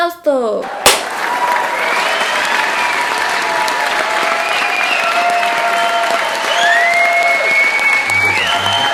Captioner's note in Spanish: Aplausos. aplaude una sola vez